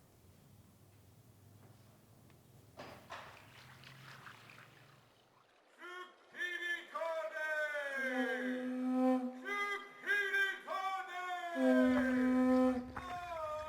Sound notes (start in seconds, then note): 3.7 water babbling softly; 6.3 man speaking foreign language; 8.4 conch blowing; 12.7 drum beating; 13.4 group chanting